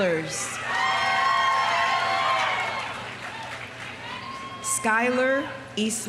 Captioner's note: audience cheering; audience applauding